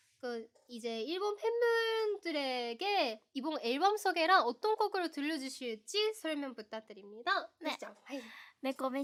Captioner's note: asking the same question in Korean